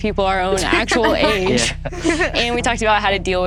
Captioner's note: everyone laughs